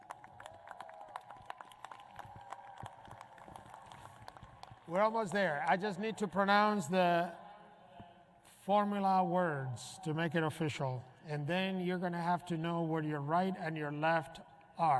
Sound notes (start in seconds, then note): 5.0 applause